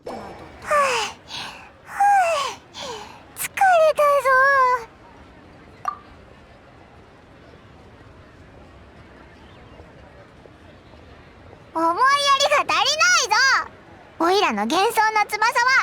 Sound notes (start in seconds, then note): 0.6 panting; 8.5 panting